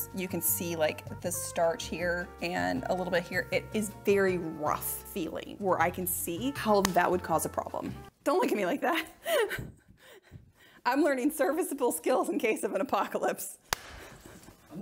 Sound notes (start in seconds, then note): 9.4 laughing